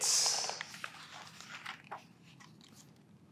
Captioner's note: pages rustling